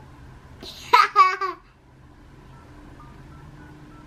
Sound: laughs

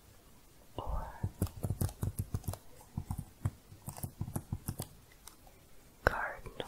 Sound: typing continues

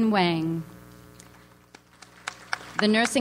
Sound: audience applauds

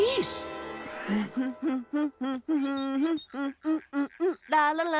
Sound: humming theme song; scat singing theme song

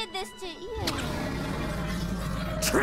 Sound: Ulth-Lah-Throth roars

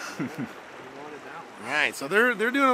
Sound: chuckling

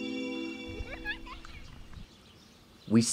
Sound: theme music; birds singing

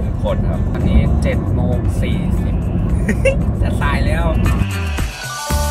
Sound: laugh

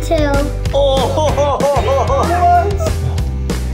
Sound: person laughs

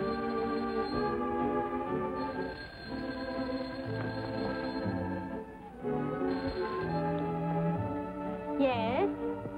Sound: phone ringing

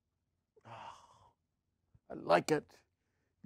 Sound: sighs

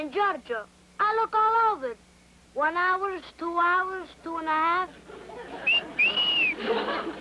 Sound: whistles

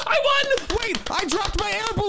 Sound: clapping

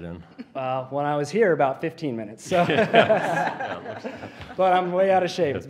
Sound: laughter

